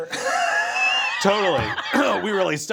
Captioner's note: laughs; fist thumping; clears throat